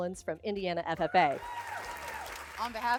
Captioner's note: crowd cheering